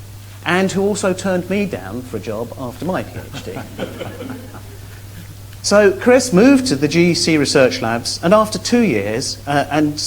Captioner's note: laughs